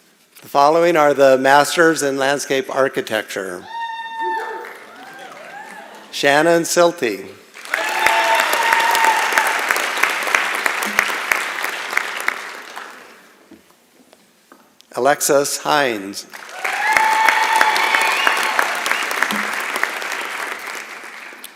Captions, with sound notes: The following are the Master's in Landscape Architecture. Shannon Sylte. [ Applause ] Alexis Heinz. [ Applause ]